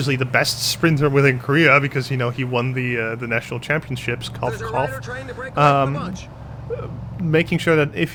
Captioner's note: cough cough